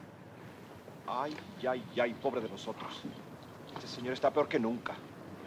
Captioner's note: soldier speaks Spanish